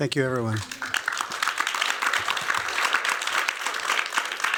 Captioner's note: applause